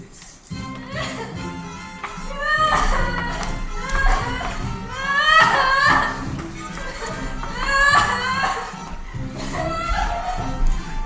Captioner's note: Ermengarde crying